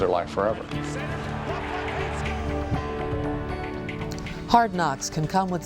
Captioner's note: sportscaster announcing game